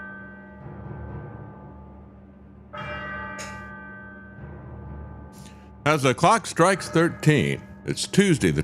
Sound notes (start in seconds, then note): 2.7 bell Tolls